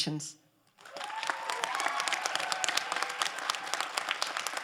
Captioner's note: crowd applauding